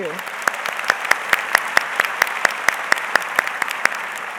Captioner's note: audience applauds